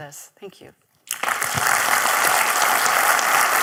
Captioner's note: applause